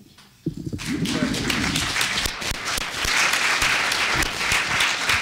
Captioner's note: applause